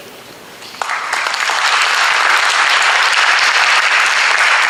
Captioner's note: audience applauds